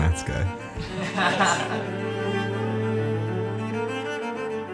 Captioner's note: all laughing